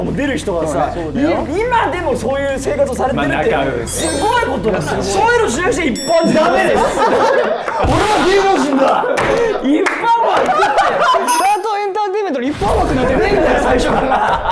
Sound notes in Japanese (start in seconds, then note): 3.8 チーン; 9.2 一同・スタッフ：笑い